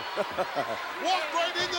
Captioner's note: laughs